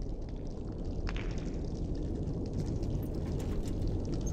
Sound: water dripping

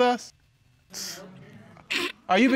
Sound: chuckles; scoffs

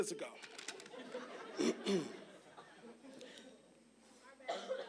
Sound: audience laughing

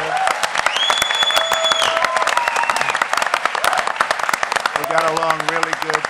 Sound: applause

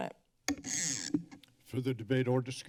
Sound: mic noise

